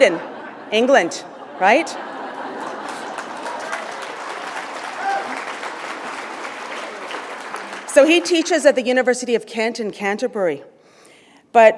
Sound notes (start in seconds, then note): 4.0 laughter; 5.3 applause